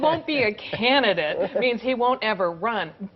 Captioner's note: laughter